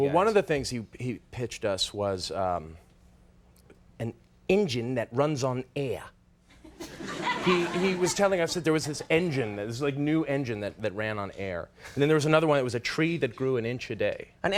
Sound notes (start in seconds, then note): 6.6 audience laughs